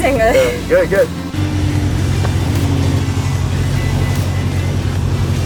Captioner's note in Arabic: أزيز محرك السيارة